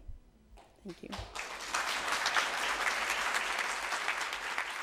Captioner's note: audience applauds